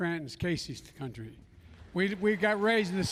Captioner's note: applause